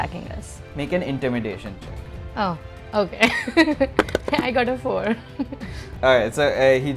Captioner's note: laughs